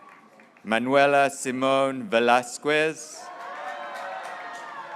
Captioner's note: graduates cheering